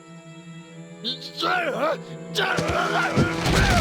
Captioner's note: shouting